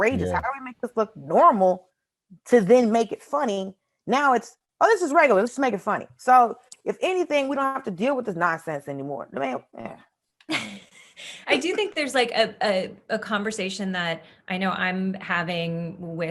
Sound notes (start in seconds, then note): 10.6 Desi laughs